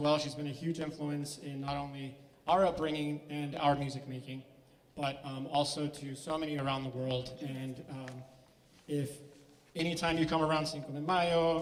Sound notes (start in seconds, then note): none